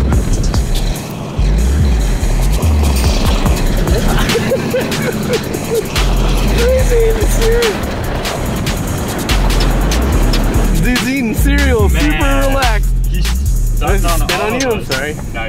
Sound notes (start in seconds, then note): 4.3 laughing